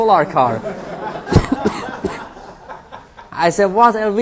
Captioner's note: laughter